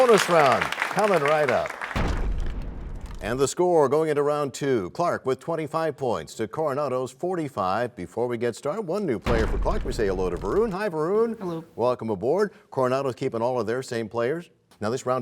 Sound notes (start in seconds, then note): 1.9 crashing sound